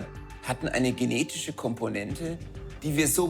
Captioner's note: speaks foreign language